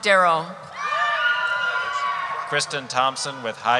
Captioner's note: cheering